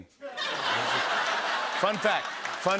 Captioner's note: laughter